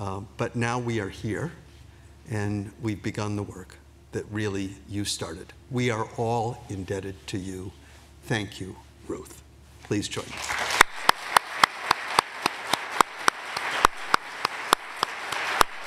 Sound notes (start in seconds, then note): 10.2 applause